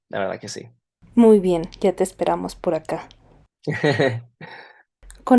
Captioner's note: laughter